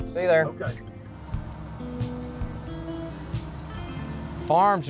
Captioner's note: tractor engine revving